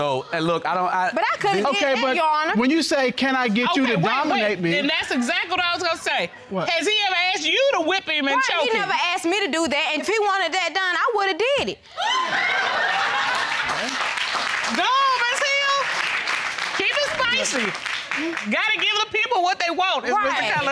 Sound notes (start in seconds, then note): 12.0 audience laughing; 14.1 audience applauding